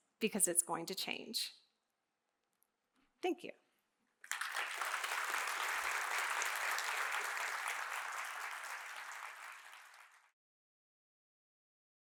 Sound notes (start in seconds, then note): 4.2 audience claps